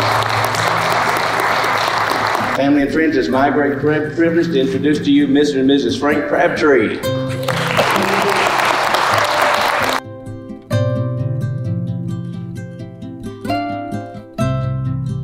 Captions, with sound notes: - Family and friends, it's my great privilege to introduce to you, Mr. And Mrs. Frank Crabtree. (people clapping) (gentle music)